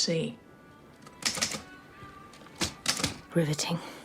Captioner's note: typing